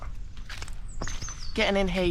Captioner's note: squelch squelch